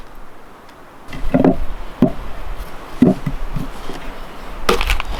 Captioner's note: wind whistling